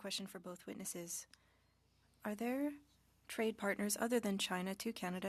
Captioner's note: speaking French